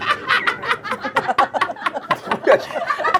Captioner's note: laughing